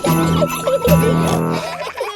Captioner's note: children giggling; peppa snorts